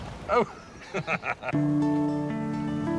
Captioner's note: Stephen laughs; mellow music